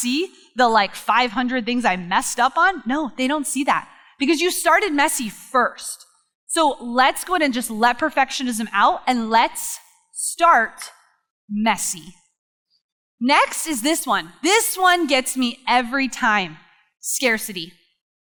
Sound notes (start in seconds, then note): none